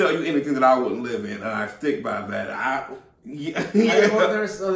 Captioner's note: chuckles